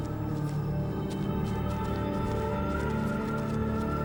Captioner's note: wind howling